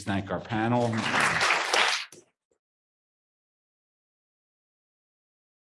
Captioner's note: audience applauds